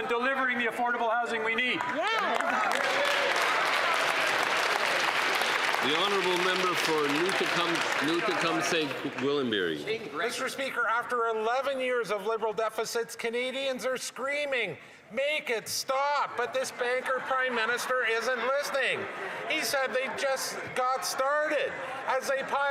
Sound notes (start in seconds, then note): 7.9 some Applause